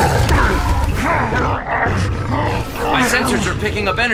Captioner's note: grunts